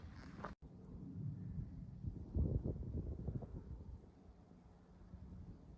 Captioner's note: light aircraft noise over head